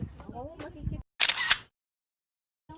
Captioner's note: camera shutter